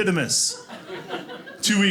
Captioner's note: audience laughing